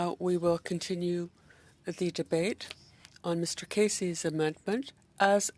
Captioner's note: speaking French